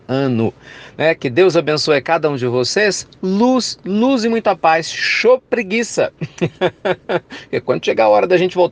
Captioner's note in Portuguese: risos